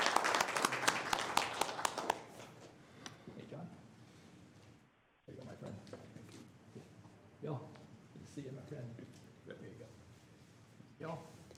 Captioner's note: applause